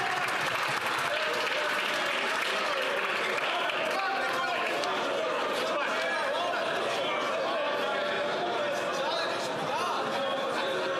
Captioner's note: some Applause